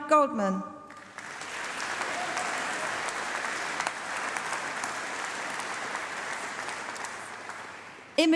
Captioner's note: applause